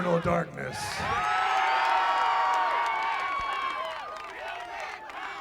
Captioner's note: crowd cheering